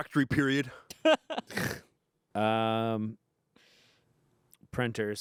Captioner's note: laughs